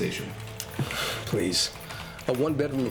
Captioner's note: scoff